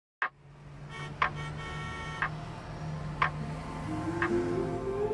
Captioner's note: car horn honking; clock ticking; soft music